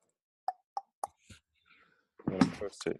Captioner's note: tongue clicks